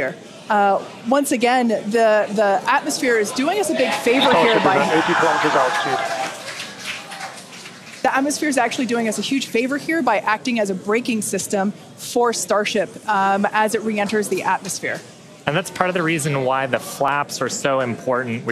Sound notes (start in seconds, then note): 5.2 audience cheering